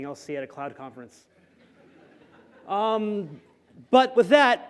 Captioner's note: laughter